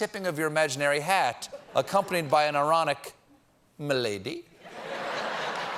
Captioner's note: laughter